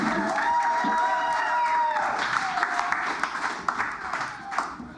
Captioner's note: cheers and applause